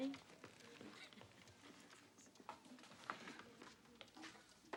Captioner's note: Olaf laughs